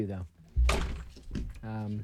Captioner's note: guitar hitting and swinging